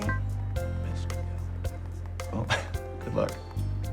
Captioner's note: laughs